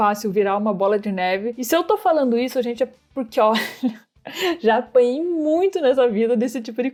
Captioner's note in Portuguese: risos